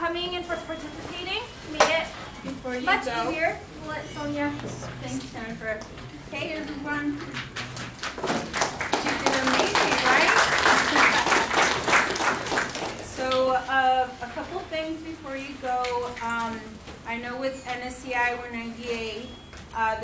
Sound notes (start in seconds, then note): 7.9 applause